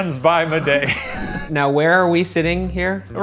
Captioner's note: laughing; air whooshing